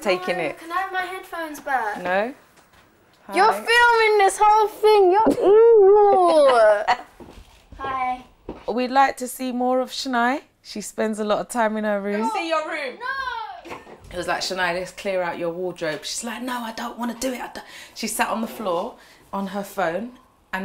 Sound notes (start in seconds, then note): 5.2 laughing